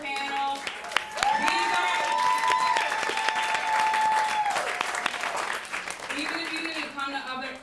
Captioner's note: applause